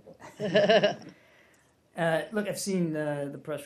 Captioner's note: laughter